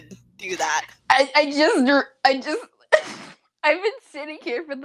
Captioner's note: giggle